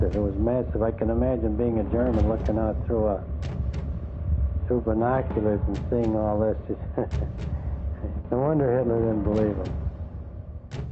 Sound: laughing

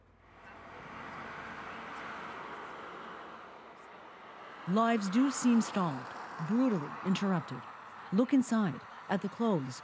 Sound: speaking foreign language

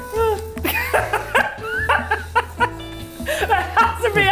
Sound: laughing

